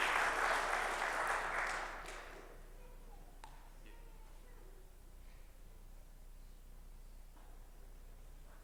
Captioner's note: applause